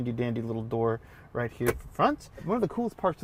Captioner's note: cup holders thuds